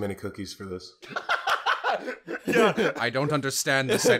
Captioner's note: laughter